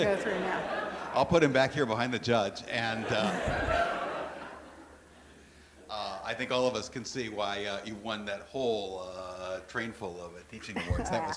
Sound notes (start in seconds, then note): 3.0 laughing